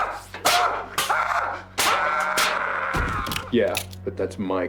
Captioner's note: yelling; clanging